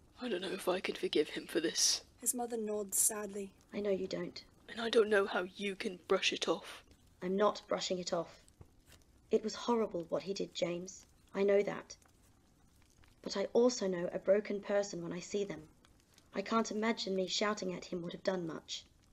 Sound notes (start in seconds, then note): none